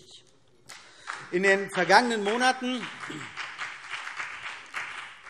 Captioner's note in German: Beifall CDU und BÜNDNIS 90/DIE GRÜNEN